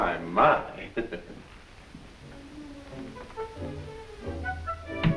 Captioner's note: Piggy chuckles; instrumental music